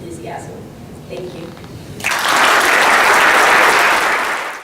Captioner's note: applause